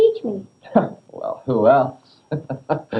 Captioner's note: chuckles